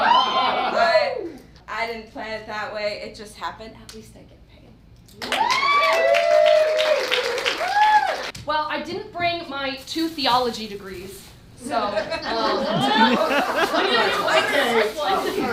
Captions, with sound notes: I didn't plan it that way, it just happened. At least I get paid. (cheering) Well, I didn't bring my two theology degrees, so... (laughing)